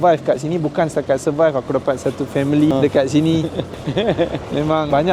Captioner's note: laugh